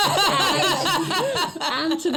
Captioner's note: laughs